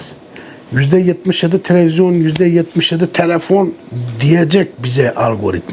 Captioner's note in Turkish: homurdanır